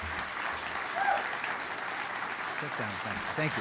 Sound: audience member cheers

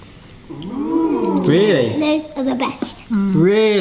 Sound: crowd ohing

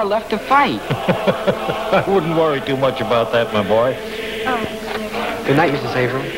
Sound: laughing

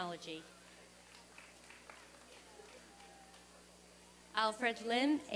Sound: applause and cheering

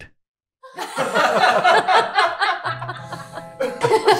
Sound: group laughing

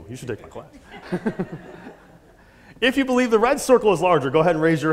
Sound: laugh

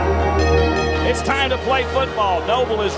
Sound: voiceover

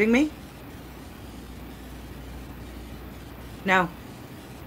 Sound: static

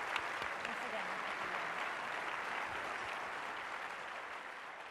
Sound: audience applauding

